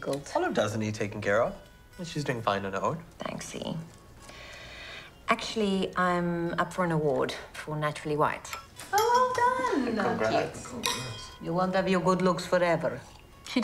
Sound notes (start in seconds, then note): 4.3 inhales